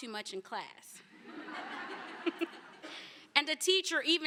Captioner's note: laughter